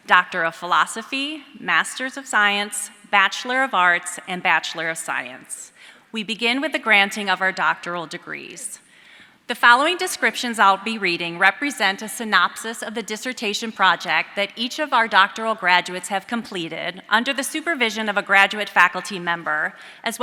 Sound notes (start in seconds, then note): none